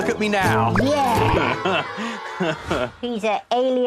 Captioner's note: Jack chuckles